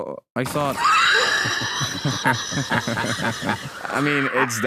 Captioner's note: laughing; laughing uncomfortably